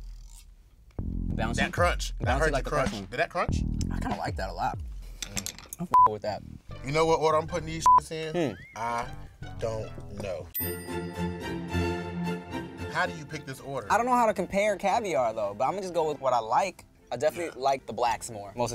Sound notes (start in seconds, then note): 5.9 beep; 8.8 classical music; 10.5 bell dings